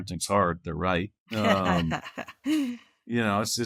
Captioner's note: laughing